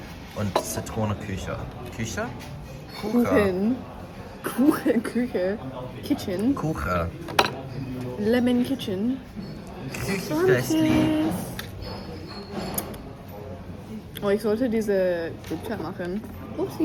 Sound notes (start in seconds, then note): 6.1 in English; 10.7 in Swiss German; 15.0 laughter